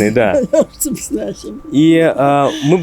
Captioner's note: laughing